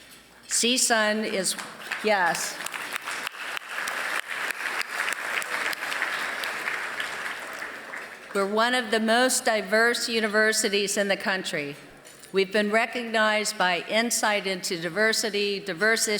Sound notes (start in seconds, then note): 1.5 applause